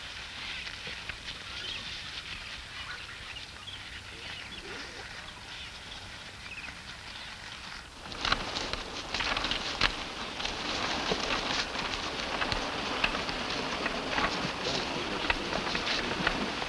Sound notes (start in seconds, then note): 8.0 boat clatters; 8.4 water rushes